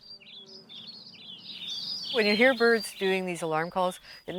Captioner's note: birds singing